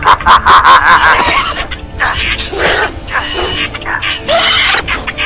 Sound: bird Sounds

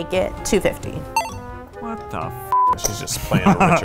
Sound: beep

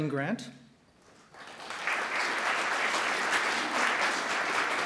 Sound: audience clapping

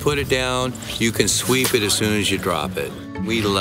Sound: claps hands together

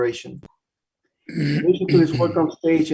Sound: clears throat

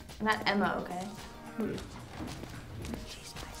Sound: grunts reluctant acquiescence

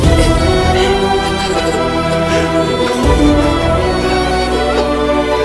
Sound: sobbing

